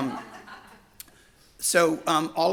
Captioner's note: audience laughs